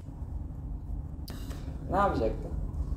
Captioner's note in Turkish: Yağmur iç çeker